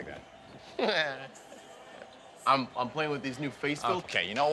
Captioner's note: laughing